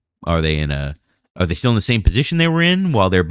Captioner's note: uh